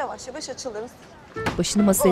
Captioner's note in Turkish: Kafa vurma sesi